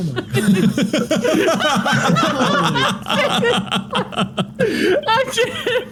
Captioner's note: laughter from all four